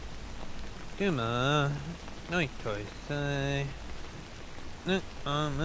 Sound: Alex speaks in foreign language

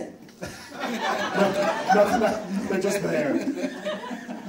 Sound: audience laughs

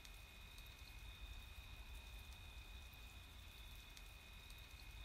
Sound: insects chirp

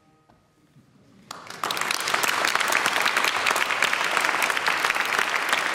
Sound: audience applauding

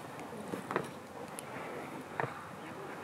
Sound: sound of stepping

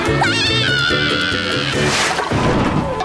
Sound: screaming

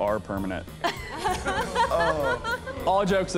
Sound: laughter

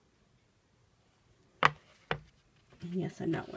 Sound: pages turning

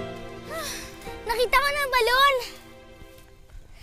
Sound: Liway sighs

